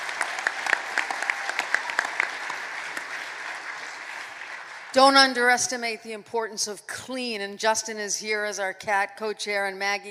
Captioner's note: applause